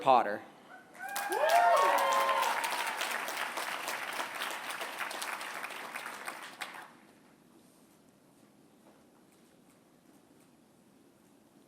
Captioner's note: applause